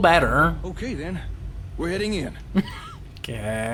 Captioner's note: laughing